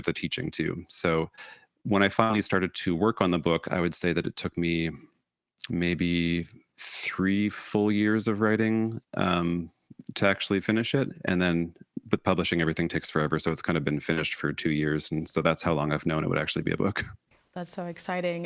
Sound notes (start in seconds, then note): none